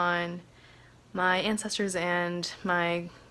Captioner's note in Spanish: HABLA EN INGLéS